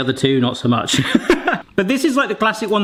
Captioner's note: laughs